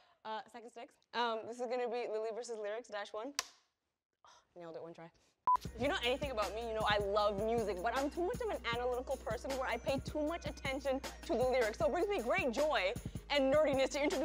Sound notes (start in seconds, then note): 5.1 scoffs